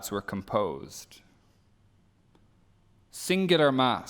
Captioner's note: sound muted